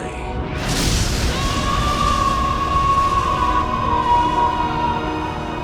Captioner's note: screaming